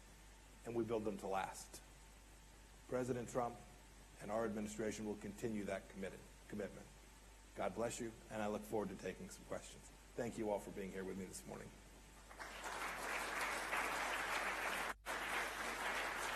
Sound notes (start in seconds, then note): 12.2 applause